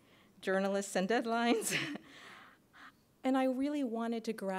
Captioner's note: laughs